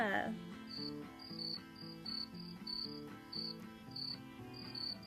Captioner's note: crickets chirping